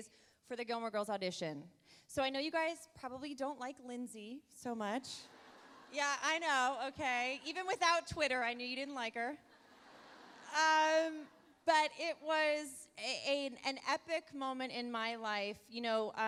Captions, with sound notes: for the "Gilmore Girls" audition. So, I know you guys probably don't like Lindsay so much. (audience chuckles) Yeah, I know, okay. Even without Twitter, I knew you didn't like her. (audience laughs) But it was an epic moment in my life.